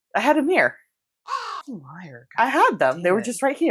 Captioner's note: caw